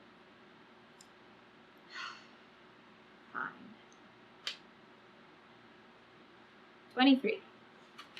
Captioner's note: exhales loudly